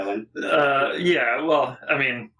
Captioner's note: laughing